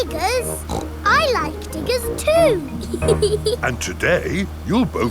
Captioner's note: snorts; laughs